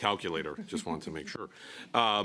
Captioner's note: speaking in French